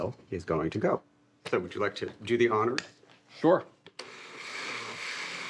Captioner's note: blender whirring; whirring stops